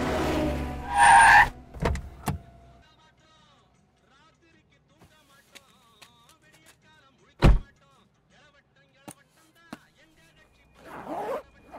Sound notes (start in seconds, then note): 0.4 brakes squeal